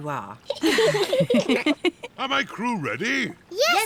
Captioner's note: all giggle